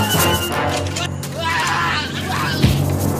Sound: yells

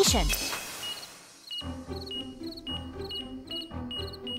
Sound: beeping

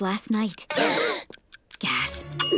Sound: gasping

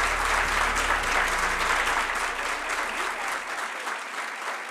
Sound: applause

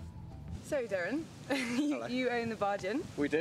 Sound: laughs

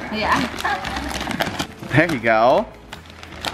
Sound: paper crinkling; laughs

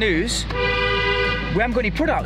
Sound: horn honks

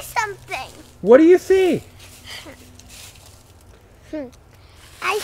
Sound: voiceover

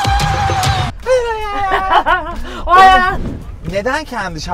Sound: laughter

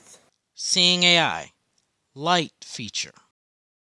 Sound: voiceover

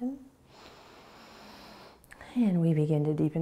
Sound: inhaling

